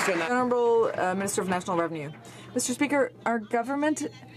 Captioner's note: some Applause